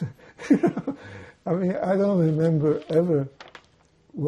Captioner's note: laughing